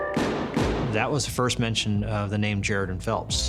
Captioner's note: gunshots